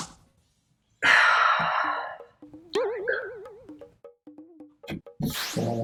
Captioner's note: sigh